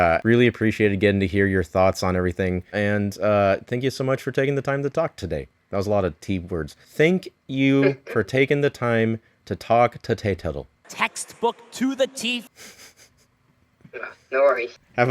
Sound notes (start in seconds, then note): 7.8 laughs; 12.5 giggles